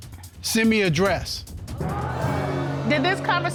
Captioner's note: audience gasping